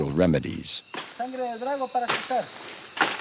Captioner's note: foreign spoken audio